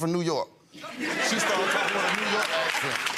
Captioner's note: audience laughs; applause